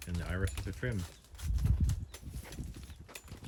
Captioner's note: slice slice! chop chop!